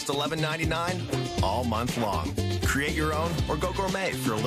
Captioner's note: glitching audio